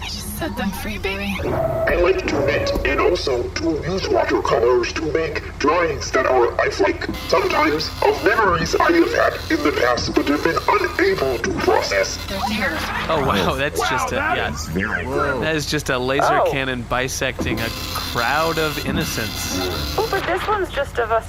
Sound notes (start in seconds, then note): 7.0 printing